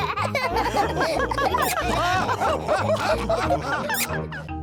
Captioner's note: all laugh; both giggle